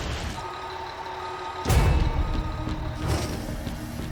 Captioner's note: backup indicator beeping